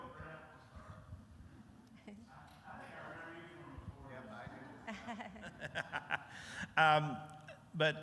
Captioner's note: laughter